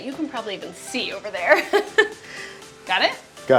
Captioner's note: laughs